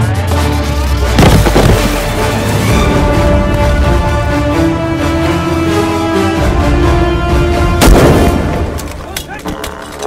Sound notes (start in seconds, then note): 7.8 gun shot